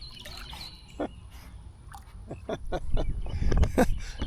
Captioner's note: laughs